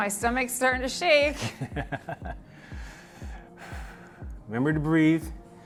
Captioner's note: laughing and taking deep breathes